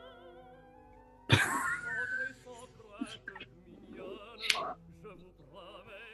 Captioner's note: giggling